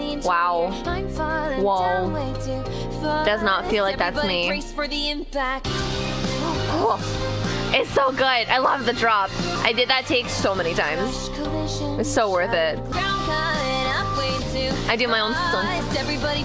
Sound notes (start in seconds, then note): 7.4 gasp